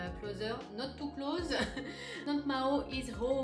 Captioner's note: chuckle